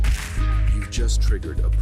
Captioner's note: electronic explosion